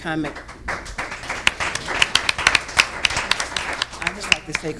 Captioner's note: audience applauding